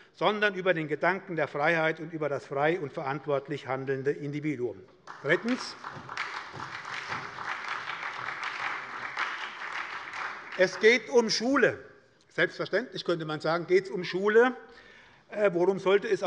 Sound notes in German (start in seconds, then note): 5.0 Beifall bei der SPD